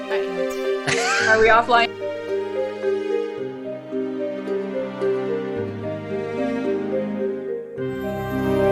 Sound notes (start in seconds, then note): 0.8 laughs; 2.7 dramatic orchestral music